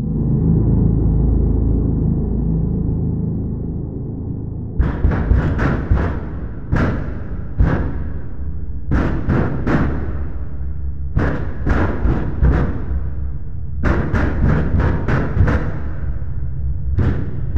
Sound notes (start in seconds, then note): 0.2 high intensity music; 4.8 neighbor pounding on wall continues